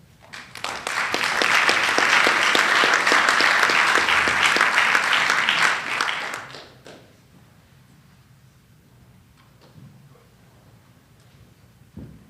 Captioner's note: applause